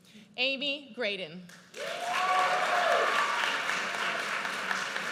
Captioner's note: audience cheers